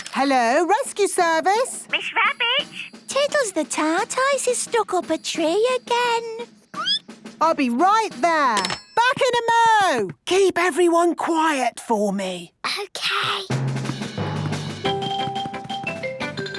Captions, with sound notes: Hello! Rescue Service! - Miss Rabbit? Tiddles the Tortoise is stuck up a tree again! (squeaking) - I'll be right there! Back in a mo! Keep everyone quiet for me! - Okay. (rapid music)